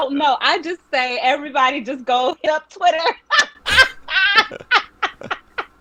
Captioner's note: laughing